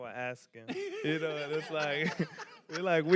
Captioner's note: panelists laughing